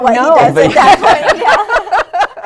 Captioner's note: laughter